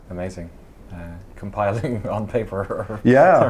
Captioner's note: laughs